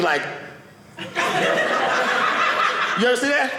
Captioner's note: audience laughing